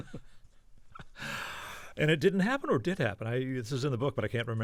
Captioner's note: laughter